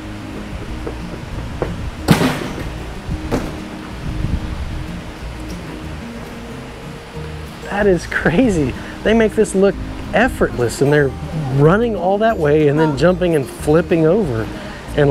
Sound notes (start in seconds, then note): 0.1 footsteps thumping; 2.0 feet thudding